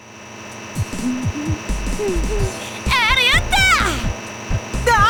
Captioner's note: hum